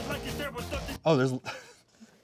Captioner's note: laughing